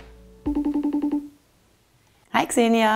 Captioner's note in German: Freizeichen